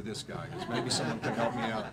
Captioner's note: laughing